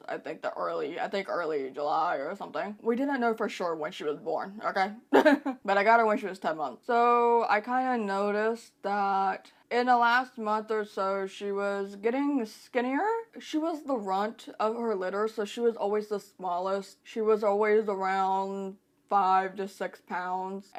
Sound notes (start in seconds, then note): 5.1 laughs